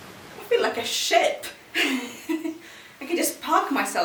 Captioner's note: laughs